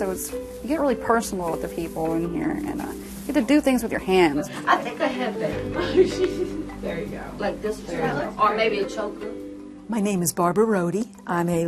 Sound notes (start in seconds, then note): 7.2 laughing